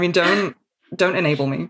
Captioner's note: laughs